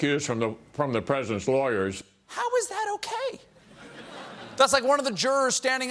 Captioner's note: laughter